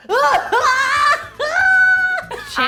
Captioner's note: laughs